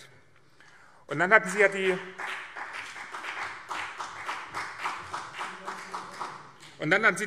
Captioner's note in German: Beifall BÜNDNIS 90/DIE GRÜNEN und CDU